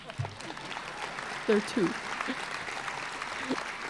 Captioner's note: applause